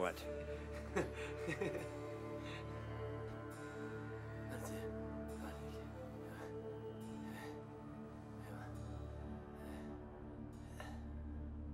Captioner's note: laughing